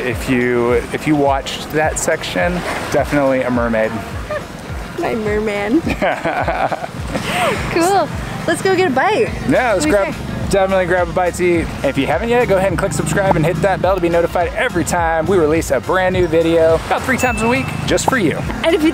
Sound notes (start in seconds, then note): 5.8 both laughing